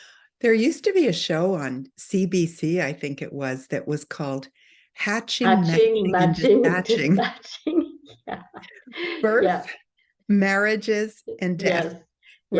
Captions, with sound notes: - There used to be a show on CBC, I think it was, that was called "Hatching, Matching, and Dispatching." - "Hatching, Matching, and Dispatching," (laughs) yeah. - Birth, marriages, and death. - Yes.